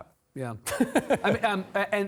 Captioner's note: laughing